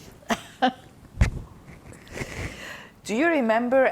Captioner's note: laughing